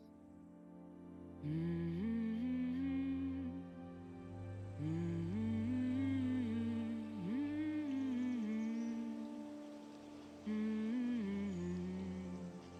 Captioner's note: humming